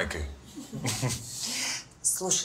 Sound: chuckles

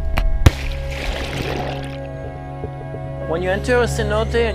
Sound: water splashing

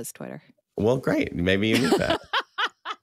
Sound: laughs

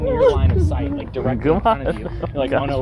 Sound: laughing

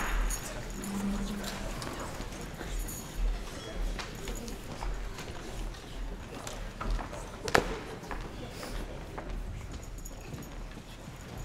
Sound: applause; general chatter

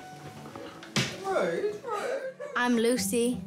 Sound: chuckles

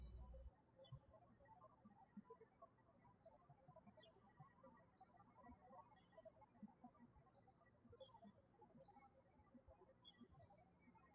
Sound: birds chirping

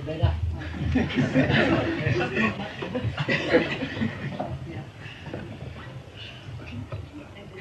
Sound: laughter

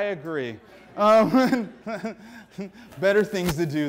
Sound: audience laughing; laughs

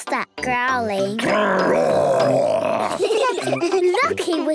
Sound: growls; giggling

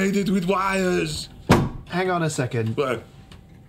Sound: head thudding

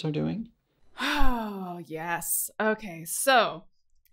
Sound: sighs

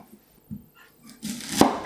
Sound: chopping sound

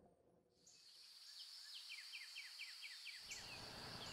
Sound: birds chirping

